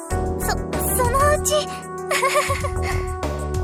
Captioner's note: awkward laugh